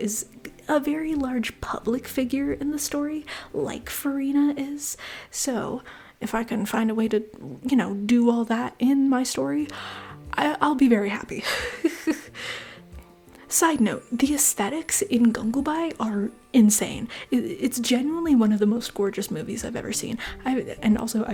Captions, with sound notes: is a very large public figure in the story like Furina is. So, if I can find a way to, you know, do all that in my story, I I'll be very happy. [laughter] Side note, the aesthetics in Gangubai are insane. It It's genuinely one of the most gorgeous movies I've ever seen. And also,